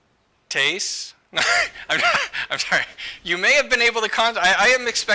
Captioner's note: laughter